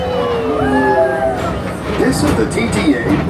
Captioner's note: public-address system chimes